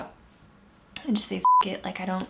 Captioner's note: beep